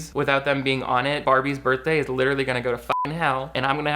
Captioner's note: beep